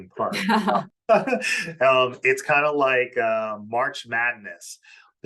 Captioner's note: laughs